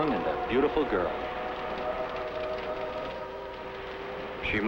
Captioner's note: siren wailing